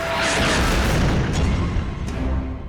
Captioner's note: truck exploding; ominous music